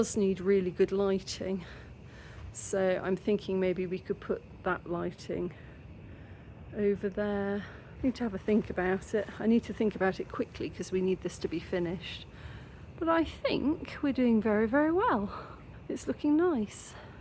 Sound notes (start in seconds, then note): none